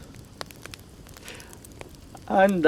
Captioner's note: fire crackling